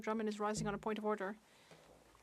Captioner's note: speaking French